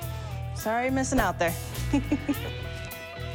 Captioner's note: giggles